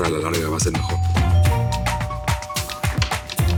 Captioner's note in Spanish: Timbre de la puerta